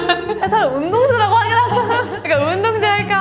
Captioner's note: laugh